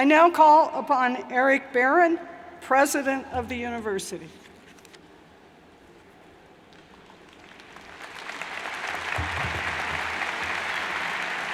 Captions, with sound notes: I now call upon Eric Barron, President of the University. (crowd applauds)